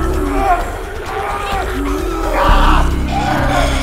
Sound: screaming

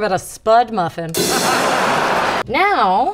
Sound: audience laughing

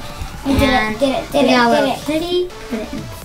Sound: mumbles

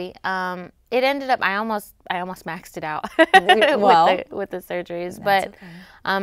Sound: laughs

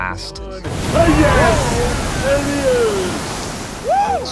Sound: geyser blast

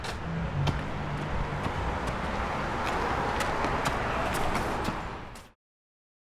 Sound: footsteps tapping on sidewalk

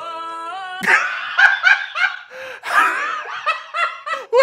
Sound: laughs

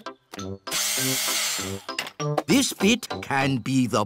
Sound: whirring

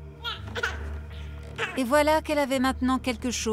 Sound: baby cries

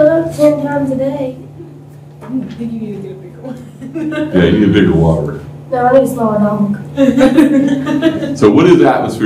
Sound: laughter

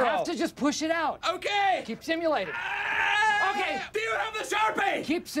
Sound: screams

